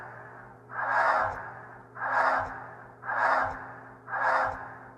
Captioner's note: inhaling and exhaling air speeding up